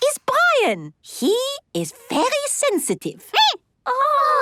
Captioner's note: squeaking